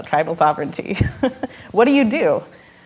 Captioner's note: laughing